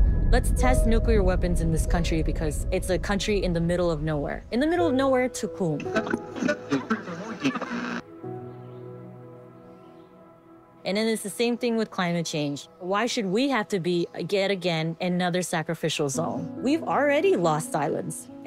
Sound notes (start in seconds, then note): 5.9 static buzzes